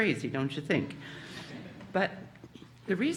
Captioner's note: audience laughing